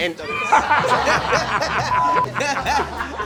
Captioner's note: laughter